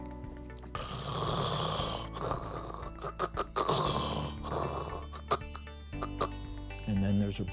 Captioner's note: snoring noises